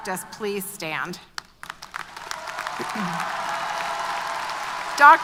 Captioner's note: applause & Cheers